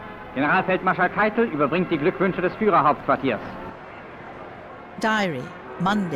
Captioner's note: speaking in German